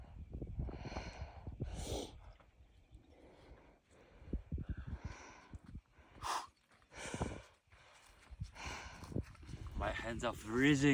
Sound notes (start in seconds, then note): 0.7 breathing heavily